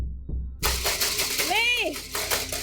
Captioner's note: frantic knocking on a door